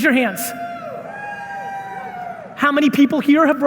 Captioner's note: audience members cheering